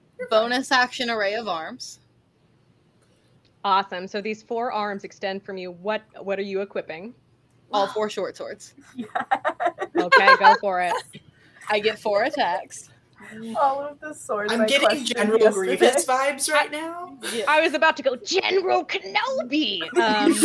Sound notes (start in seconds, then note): 8.9 laughter; 8.9 laughing